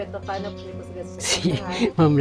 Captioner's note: chuckles